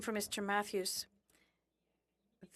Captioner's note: speaking French